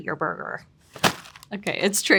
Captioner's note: packaging thudding